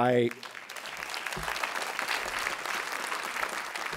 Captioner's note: applause